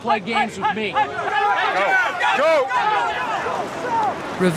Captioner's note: students shouting